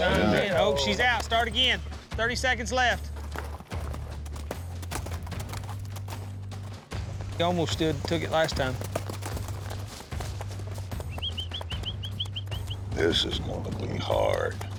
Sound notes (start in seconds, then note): 2.9 hoofbeats; 7.3 hoofbeats, whistling